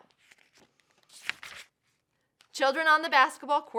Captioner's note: paper rustles